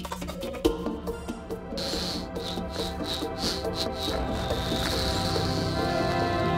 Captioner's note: static